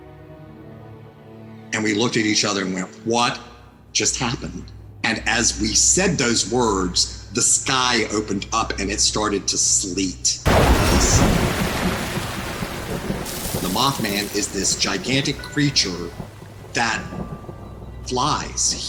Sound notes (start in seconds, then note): 0.0 ambient music; 10.4 rain pattering; 10.4 thunder rumbling